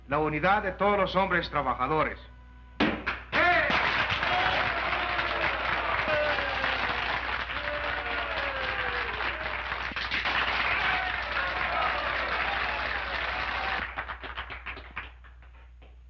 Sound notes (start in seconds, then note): 2.8 Charley thumps tabletop; 3.5 crowd cheering and applauding